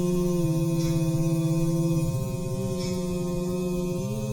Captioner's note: drone buzzing